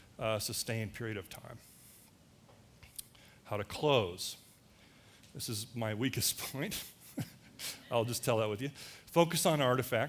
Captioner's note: laughter